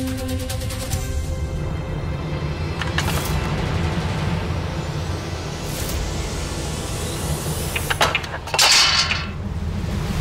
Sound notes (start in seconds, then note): 7.7 clanging